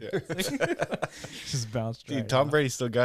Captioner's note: laughing